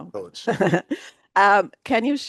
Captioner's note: chuckling